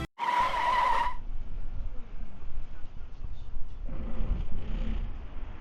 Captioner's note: screech of brakes